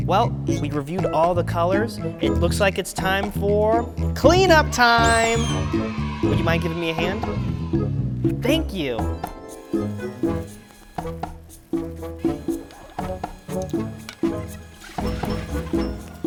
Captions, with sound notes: Well, we reviewed all the colors. It looks like it's time for, clean up time! (kids cheer) Would you mind giving me a hand? Thank you. (whimsical harp strum) (sped up voice squeaks)